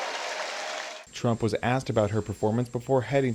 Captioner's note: cheering